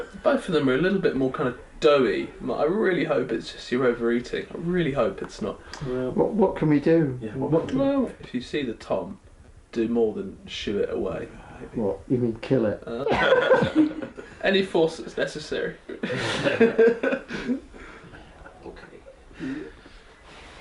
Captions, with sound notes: Both of them are a little bit more doughy. Like, “I really hope you’re just overeating, I really hope it’s not...” - What can we do? - Well, if you see the tom, do more than shoo it away. - What, you mean kill it? - [Laughter] Any force that’s necessary. [Laughter]